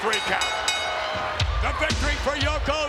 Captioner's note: bell rings